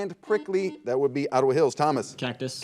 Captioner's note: buzzer